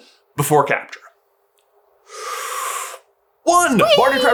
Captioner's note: inhale of preparation